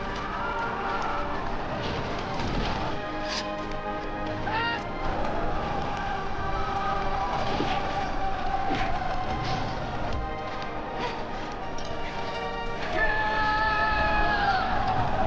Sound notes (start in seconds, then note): 3.2 sword unsheathing; 5.1 hitting; 13.1 soldiers yelling